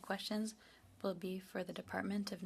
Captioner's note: speaking in French